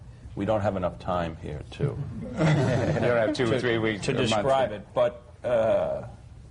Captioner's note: laughter